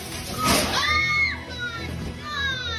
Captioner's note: child screaming